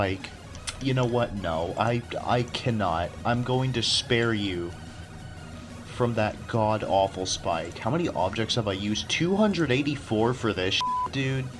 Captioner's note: tch